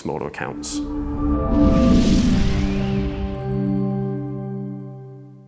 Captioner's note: electronic whoosh